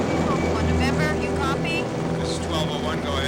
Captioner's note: woman On Radio